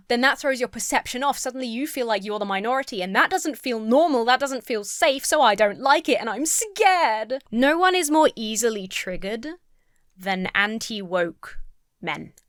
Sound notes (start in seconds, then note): none